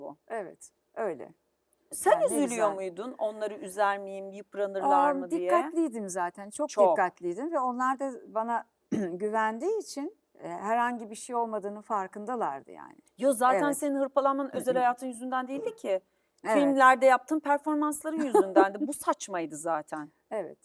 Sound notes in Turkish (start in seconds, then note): 8.9 boğazını temizler